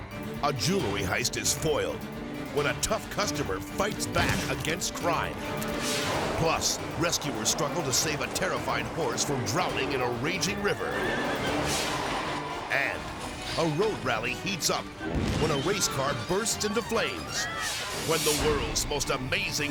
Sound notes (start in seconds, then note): 5.8 screen exploding; 10.2 horse neighing; 12.3 car skidding; 12.3 screen exploding; 15.0 car igniting; 17.9 people screaming; 17.9 screen exploding